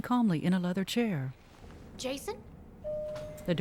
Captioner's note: elevator Bell Dings